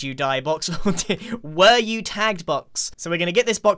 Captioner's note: laughs